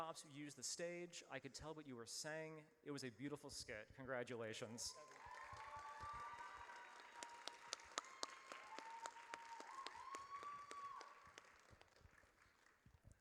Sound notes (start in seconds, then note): 4.8 audience cheers